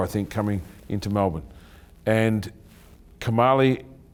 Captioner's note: none